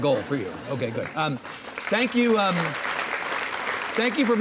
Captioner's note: audience applauding